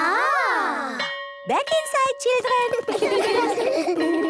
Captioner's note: school bell